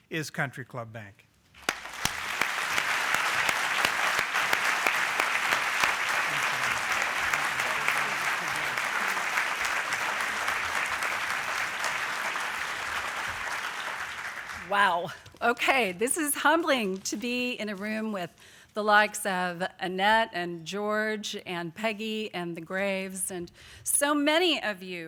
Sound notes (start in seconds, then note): 3.3 applause